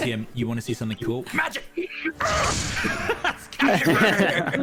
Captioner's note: giggles